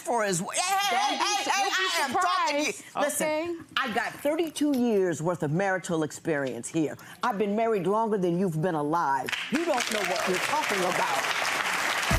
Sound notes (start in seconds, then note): 9.3 clapping